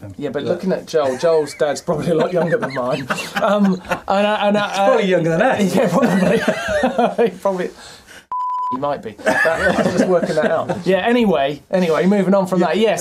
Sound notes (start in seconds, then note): 3.2 laughing; 8.3 beep